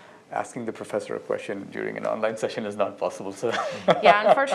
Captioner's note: laughter